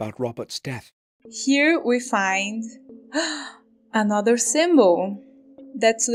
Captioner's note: gasp